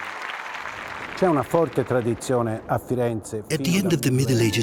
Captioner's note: audience applause; speaking Italian